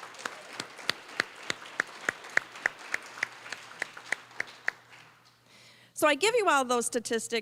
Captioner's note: applause